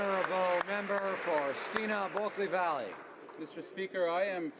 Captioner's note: speaking alternate language